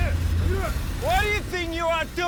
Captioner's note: speaking in a foreign language